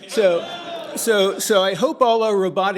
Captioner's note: laughter